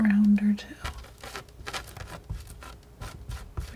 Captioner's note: scratching